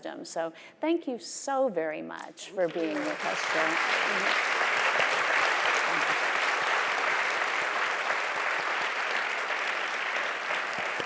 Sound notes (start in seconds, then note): 2.7 audience applauding